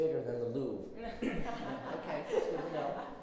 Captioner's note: everyone laughs